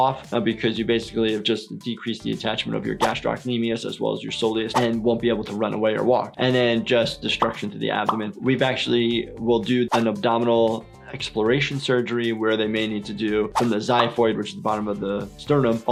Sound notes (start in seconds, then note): none